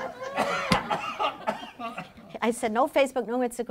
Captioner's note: laughing